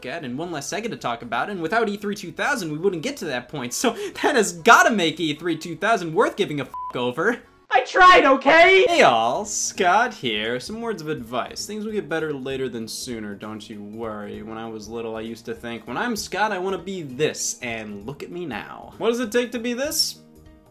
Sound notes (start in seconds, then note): 6.7 beeps